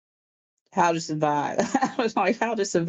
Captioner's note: laughs